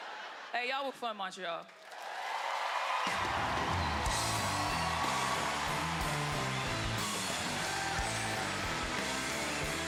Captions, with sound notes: Hey, y'all were fun, Montreal. (applause) (upbeat music)